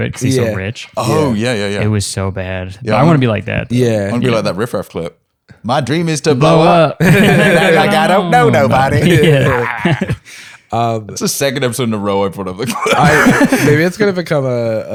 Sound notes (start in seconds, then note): 7.0 laughter; 12.6 laughter